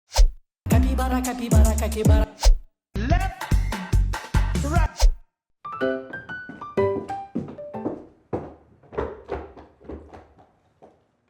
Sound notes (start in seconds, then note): 2.4 swipe; 4.9 swipe